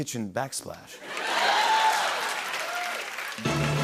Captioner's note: laughter, cheers, applause